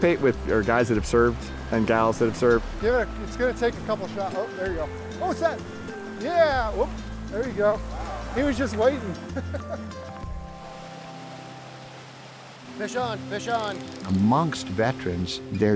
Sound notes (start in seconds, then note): 2.6 fishermen talking; 9.2 fishermen laughing; 10.8 stream flowing; 14.1 warm music